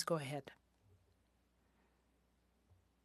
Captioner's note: speaking French